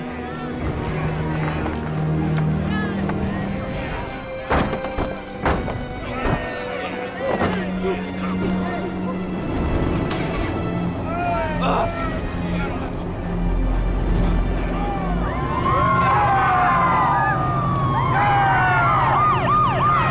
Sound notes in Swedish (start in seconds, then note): 4.6 fötter som stampar; 11.5 gruntande; 14.0 skrik och jublande; 17.3 siren som skräller